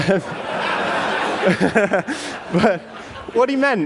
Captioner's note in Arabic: ضحك